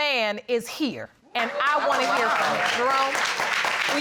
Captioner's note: applause